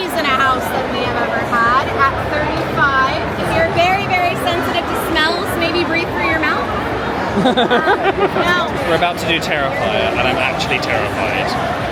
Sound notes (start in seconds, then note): 7.3 laughing